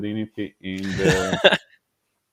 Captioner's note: laughing